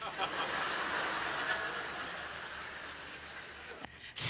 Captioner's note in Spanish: Risas